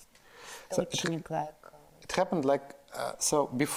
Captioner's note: Natasha speaks in foreign language